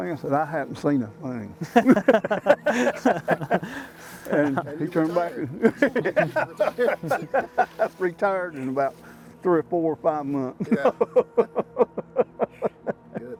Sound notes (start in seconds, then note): 1.6 all laughing; 10.6 laughing